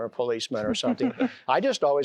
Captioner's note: giggling